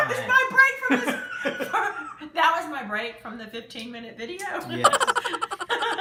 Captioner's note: laughs